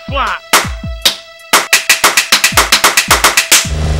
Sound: constant Slap Fight happening; car Engine

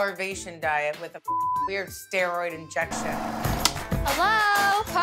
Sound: beep

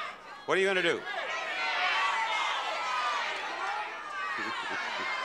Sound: audience yelling

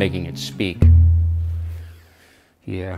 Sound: hollow thud

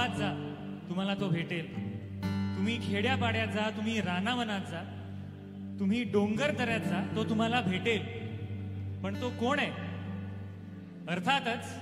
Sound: speaks in Marathi - not transcribed

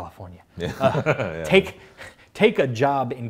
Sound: laughs

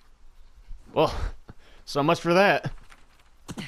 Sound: laughing

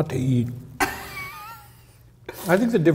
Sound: laughs

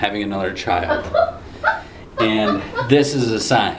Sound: laughs

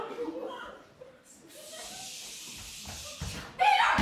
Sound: audience laughter and bewilderment; web noises

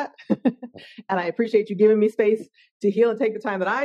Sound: laughing

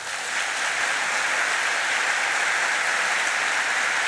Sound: applause

